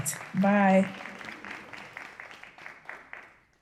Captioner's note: applause